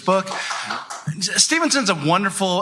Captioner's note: applause